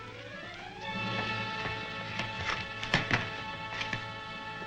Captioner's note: door opens; feet tap